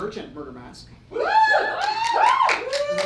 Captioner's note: audience cheers